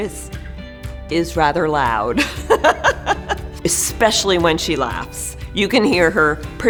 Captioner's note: laughs